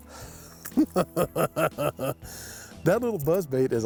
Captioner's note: snickering